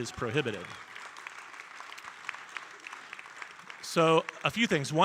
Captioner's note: audience applauding